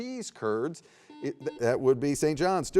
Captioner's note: buzzer beeps